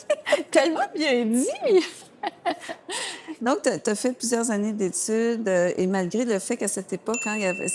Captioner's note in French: rires